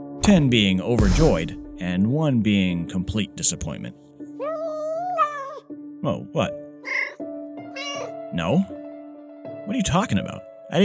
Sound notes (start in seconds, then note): 4.4 yowl